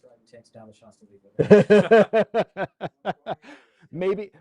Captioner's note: laughter